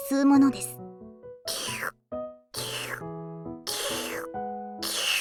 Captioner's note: slurp; shlurrrp